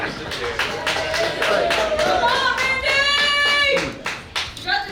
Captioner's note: cheering & Clapping